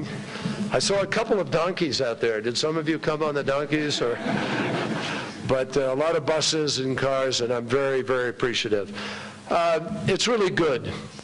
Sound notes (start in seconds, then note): 4.0 laughter